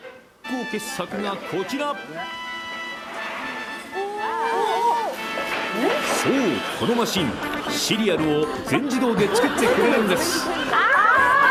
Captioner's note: sounds of surprise